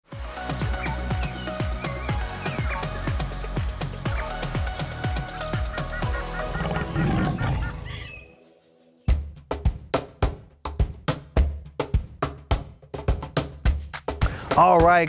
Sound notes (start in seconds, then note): 0.0 upbeat music; 6.5 lion roars; 10.1 upbeat music